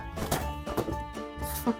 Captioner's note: thunk; laugh